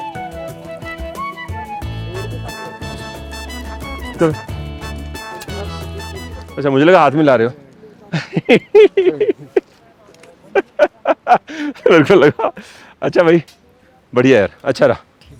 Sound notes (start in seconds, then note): 8.1 laughter